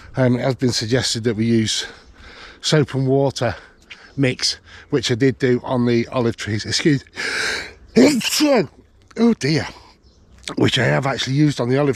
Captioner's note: sneezes